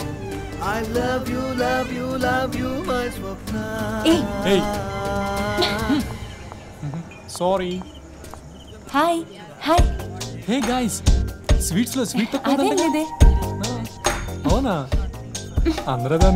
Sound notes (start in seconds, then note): 5.1 sighs; 10.1 indistinct chatter